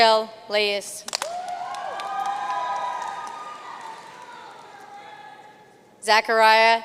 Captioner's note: audience cheering and applauding